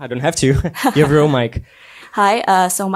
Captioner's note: laughs